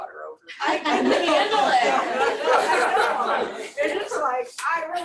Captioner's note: laughter